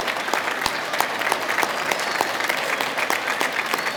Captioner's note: clapping